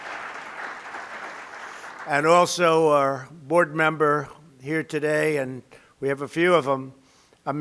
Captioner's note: applause